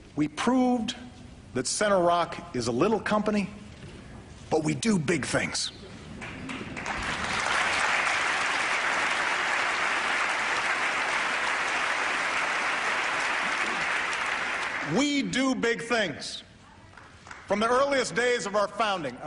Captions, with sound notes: “we proved that Center Rock is a little company, but we do big things.” (Applause) We do big things. From the earliest days of our founding,